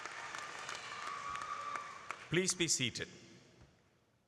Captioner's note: applause